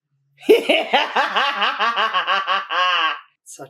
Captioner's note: villian laugh commences